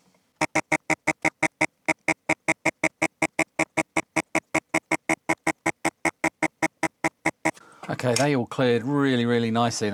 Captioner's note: imitates Beeping